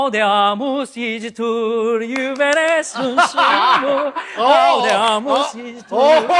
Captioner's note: cheers and applause from the wedding guests